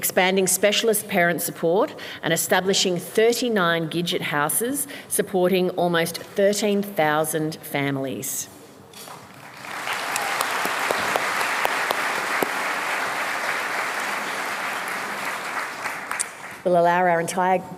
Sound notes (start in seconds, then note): 9.3 applause